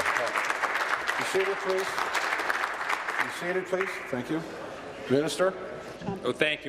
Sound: applause

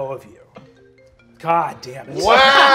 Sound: phone ringing

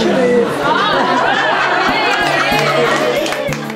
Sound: laughter

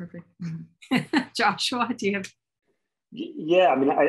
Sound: laughs

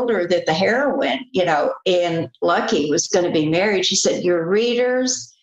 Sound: none

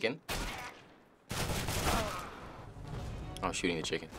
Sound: gunfire; in game: death groan

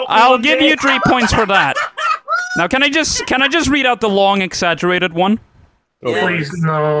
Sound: laughs hysterically

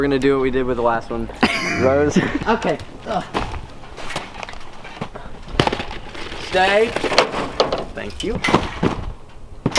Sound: laugh

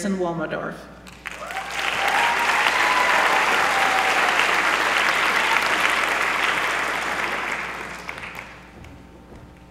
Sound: applause

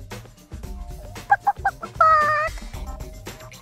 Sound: imitating chicken

